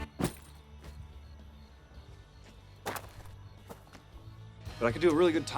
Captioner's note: insects buzzing; muted rock music